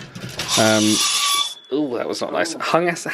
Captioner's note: hangers screech on rail